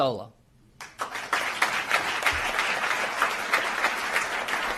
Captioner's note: applause